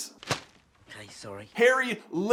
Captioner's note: thwap!